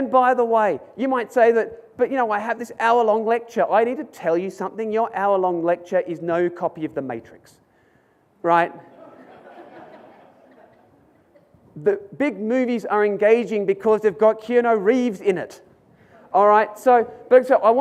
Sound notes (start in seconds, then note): 8.9 audience laughs